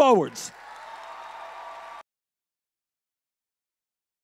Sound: audience cheers

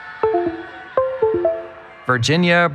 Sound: cheering

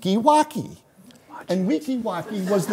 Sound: whispering

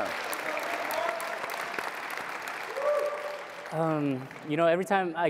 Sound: audience clapping and cheering

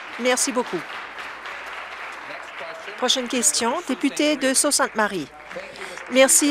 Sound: applause

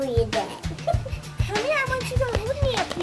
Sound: panting

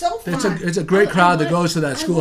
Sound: voiceover

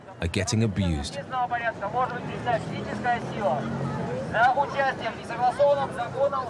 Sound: speaking in foreign language

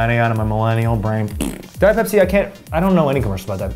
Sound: blows raspberry

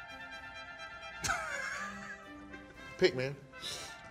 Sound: laughs

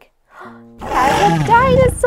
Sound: roar

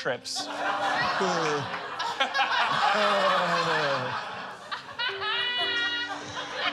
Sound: laughter

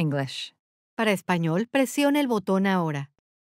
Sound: speaking spanish

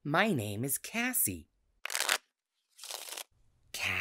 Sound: cards shuffling

